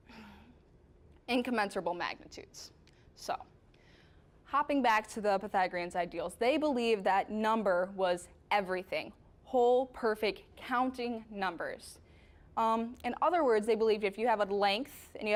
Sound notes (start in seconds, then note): none